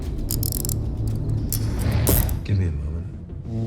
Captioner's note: handcuffs clicking